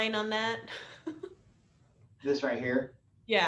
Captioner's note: laughter